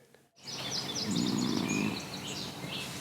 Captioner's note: snoring